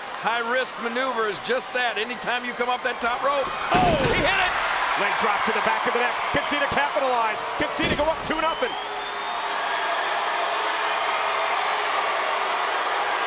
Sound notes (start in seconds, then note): 9.2 crowd cheers and boos